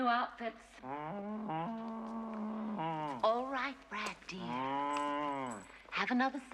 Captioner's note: Стонет